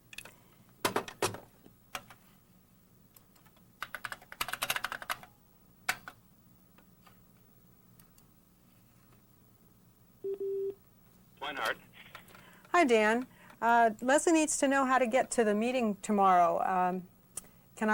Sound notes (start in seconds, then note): 3.8 keyboard clicking; 10.2 tone